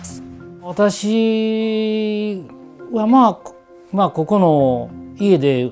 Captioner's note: speaking foreign language